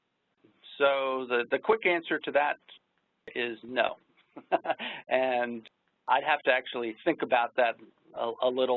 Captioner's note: laughs